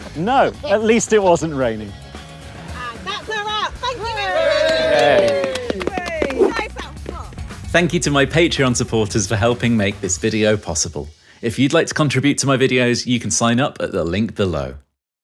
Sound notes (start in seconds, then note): 3.8 group cheers and applauds